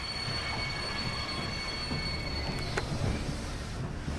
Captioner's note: loud metallic scraping sound